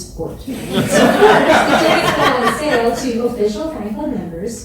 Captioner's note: audience laughs